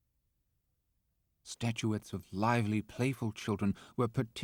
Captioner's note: voiceover